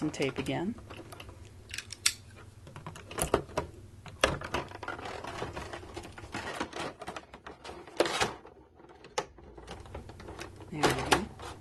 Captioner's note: so many tape distruction noises